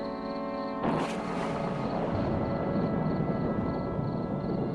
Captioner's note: thunder rumbling